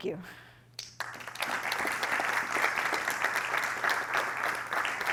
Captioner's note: applause